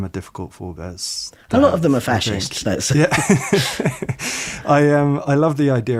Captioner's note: they laugh